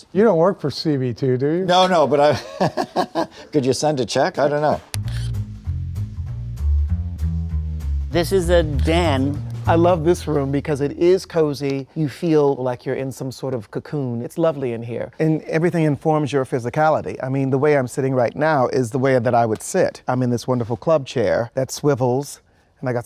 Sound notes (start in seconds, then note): 2.3 chuckles; 5.0 upbeat music